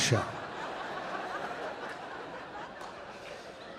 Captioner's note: audience laughing